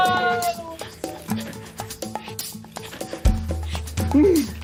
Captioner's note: both panting